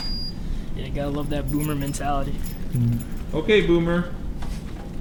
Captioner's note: laughs